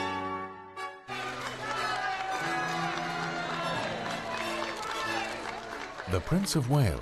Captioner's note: crowd cheering; voiceover